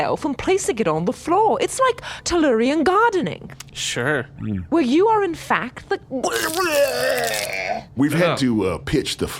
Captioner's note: vomits loudly